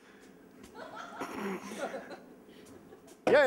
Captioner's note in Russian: тихий ржач